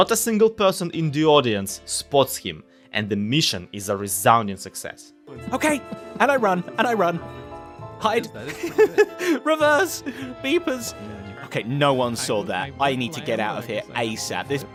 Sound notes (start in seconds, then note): 5.0 crowd murmuring behind; 8.4 laughs